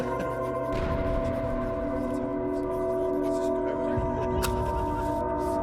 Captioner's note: distant explosions